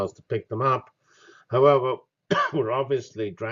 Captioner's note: cough